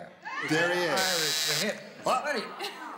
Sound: buzzer sounds

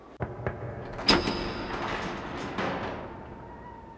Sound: door cranking

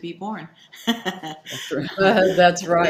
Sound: laughs

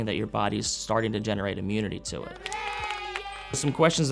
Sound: children cheering

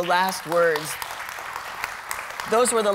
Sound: applause

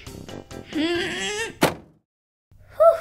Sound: slam!

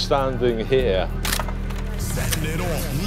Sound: camera shutter clicking

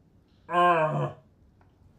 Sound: disgruntled noises

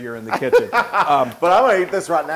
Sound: laugh

